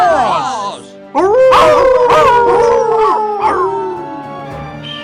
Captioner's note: howl